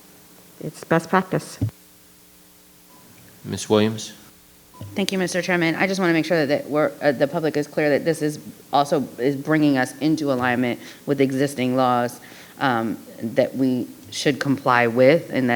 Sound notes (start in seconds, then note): 4.7 microphone beeping